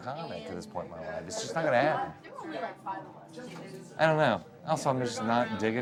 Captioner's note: none